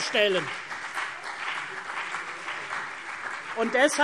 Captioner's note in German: Beifall CDU und BÜNDNIS 90/DIE GRÜNEN